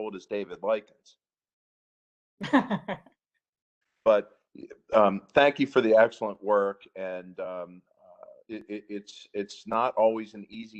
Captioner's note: laughter